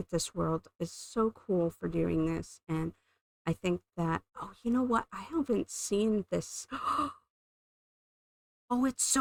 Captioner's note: gasp